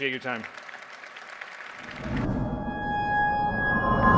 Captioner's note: applause